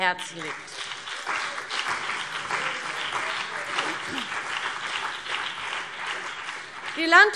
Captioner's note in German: Beifall BÜNDNIS 90/DIE GRÜNEN und vereinzelt CDU